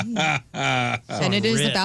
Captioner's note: laughing